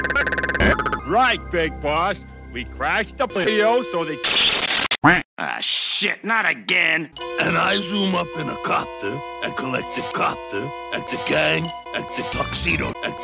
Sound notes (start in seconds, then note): 4.3 BZZzZzzZZTT; 4.8 quack